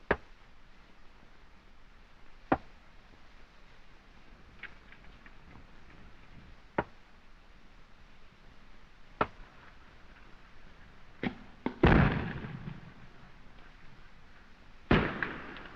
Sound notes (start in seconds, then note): 11.6 explosion